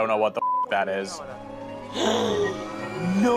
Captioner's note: gasping